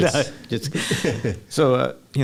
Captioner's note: laughs